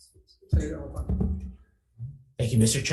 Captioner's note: chair speaks faintly